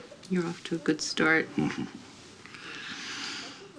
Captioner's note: chuckles